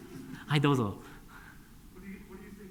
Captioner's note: speaking japanese